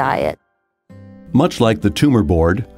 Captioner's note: voiceover